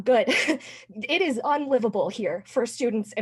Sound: laughter

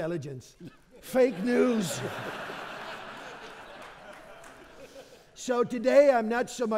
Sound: audience laughing

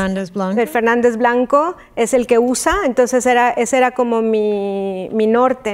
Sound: speaking in Spanish

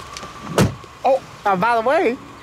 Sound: door slams

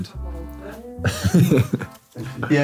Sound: laughing

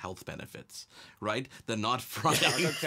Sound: laughs

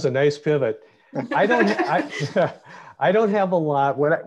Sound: laughs

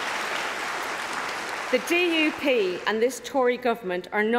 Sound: applause

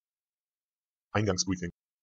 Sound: fast Pronunciation

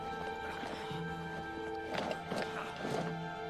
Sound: grunts

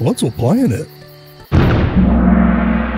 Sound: explosion; mystical gong sound

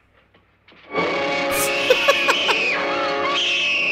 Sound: laughs

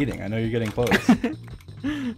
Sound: chuckles

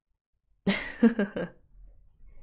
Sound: laughs

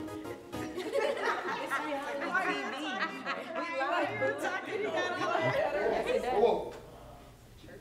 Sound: laughter

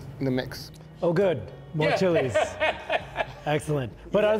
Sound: laughing

